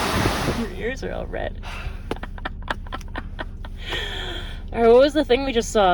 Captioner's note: laughs